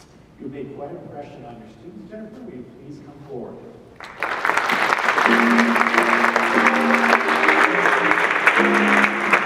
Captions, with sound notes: You've made quite an impression on your students. Jennifer, will you please come forward? (audience clapping) (jazz music)